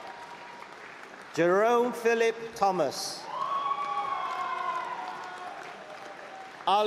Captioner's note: applause; screaming and cheering; applause